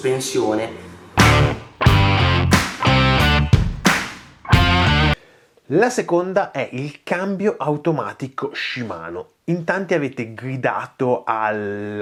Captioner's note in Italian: Applauso